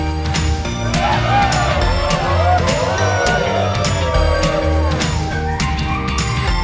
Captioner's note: cheers